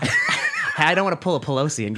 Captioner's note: laughing